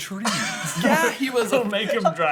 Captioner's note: laughter